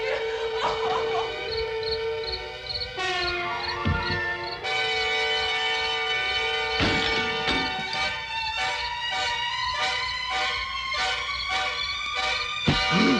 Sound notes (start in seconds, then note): 0.0 crying; 1.5 insects chirping; 6.6 glass shattering; 8.9 dramatic instrumental music